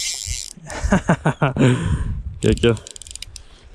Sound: laughs

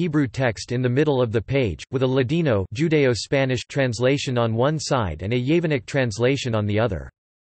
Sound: judaeo-Spanish

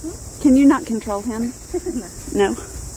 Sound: laughing

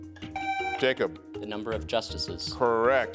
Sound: buzzer beeps

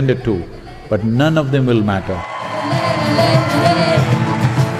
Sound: cheering

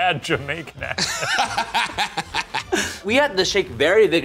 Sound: laughs

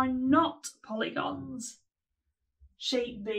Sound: short pause

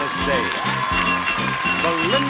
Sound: audience applauds; bell ringing

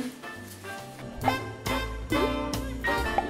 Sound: popping

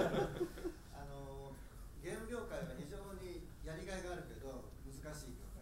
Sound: speaking in foreign language

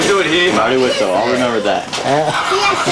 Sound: laughs

